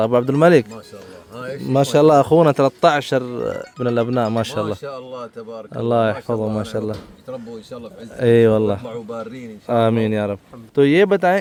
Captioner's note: Arabic